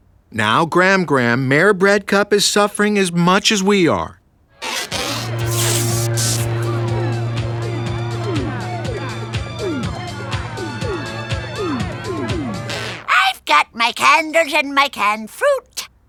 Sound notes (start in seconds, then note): 4.6 electricity humming; 9.1 party guests chattering